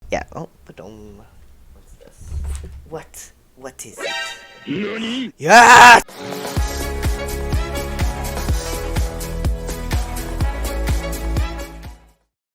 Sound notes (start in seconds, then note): 4.0 surprised sound effect; 6.8 jazzy music